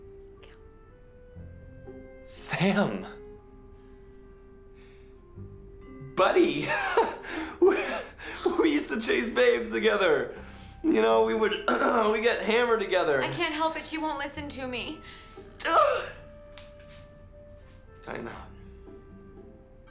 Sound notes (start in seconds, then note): 6.6 laughing; 11.6 clearing throat